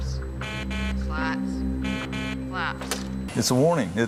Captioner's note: buzzes